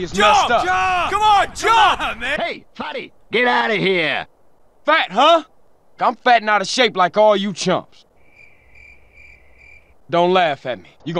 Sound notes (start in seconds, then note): 8.1 crickets